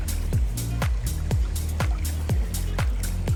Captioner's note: water trickling